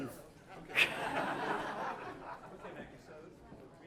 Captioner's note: laugh